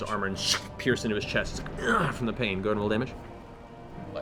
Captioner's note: groan